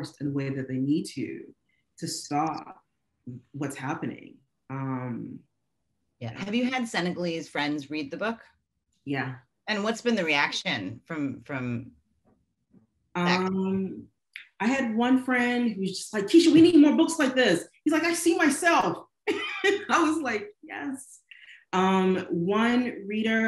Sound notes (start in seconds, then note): 19.4 laughing